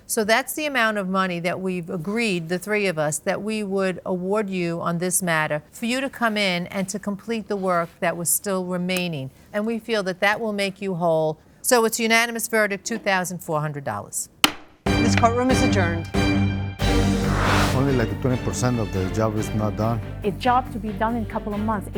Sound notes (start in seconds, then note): 14.4 gavel taps; 14.9 dramatic orchestral music